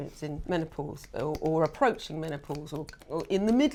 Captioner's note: finger snapping